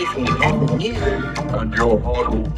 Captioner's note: shouting, groaning